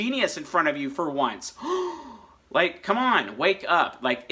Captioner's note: gasps